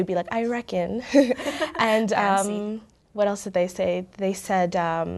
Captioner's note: both laugh